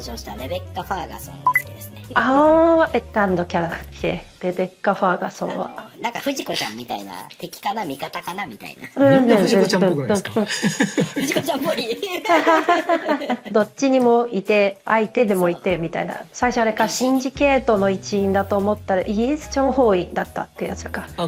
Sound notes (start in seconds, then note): 10.4 laughs